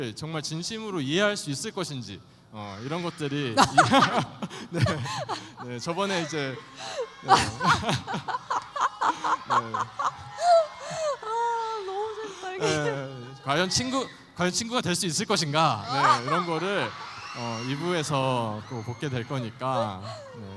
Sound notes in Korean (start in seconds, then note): 2.9 웃음